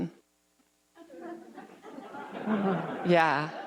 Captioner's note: audience laughs